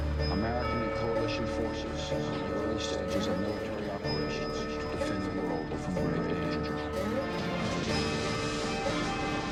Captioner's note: various news audio